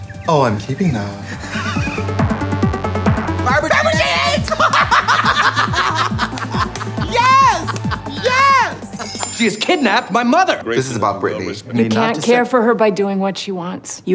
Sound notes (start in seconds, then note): 1.2 Katya laughs; 4.3 both laugh